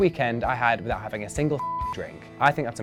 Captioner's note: beep